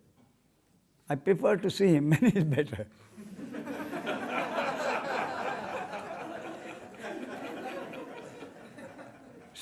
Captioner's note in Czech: smích